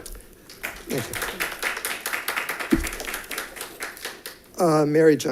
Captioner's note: audience applauding